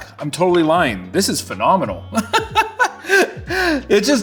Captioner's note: laughs